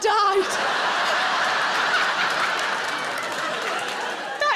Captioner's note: audience laughs